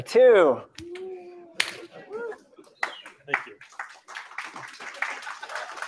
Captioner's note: scattered applause